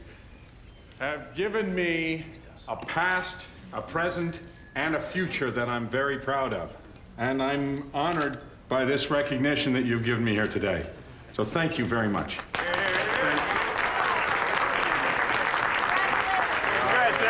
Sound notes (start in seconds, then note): 12.4 cheers and applause